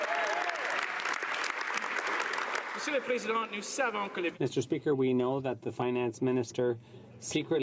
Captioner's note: some Applause